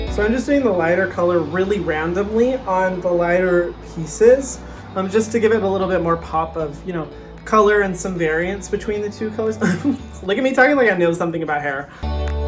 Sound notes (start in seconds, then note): 9.6 chuckles